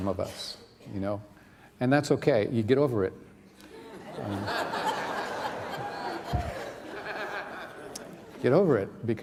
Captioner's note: laughter